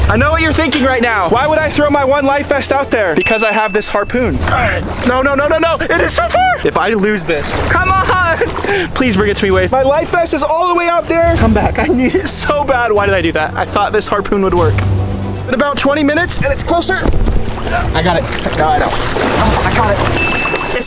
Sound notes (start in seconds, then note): 0.0 water splashes; 4.4 grunts